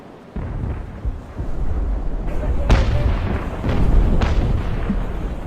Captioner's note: explosions rumbling